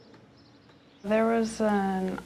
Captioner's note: nature sounds